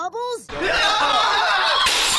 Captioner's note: yelling and screaming; glass breaking